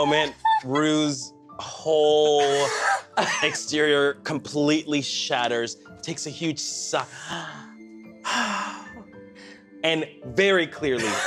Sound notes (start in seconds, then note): 8.2 inhales, and exhales, loudly